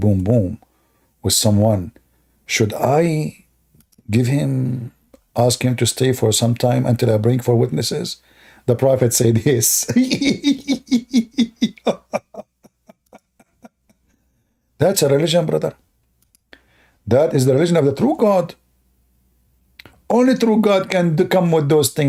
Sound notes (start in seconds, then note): 9.8 Ketawa